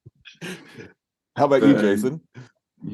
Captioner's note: laughs